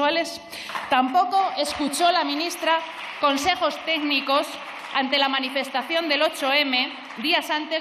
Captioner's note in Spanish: Aplausos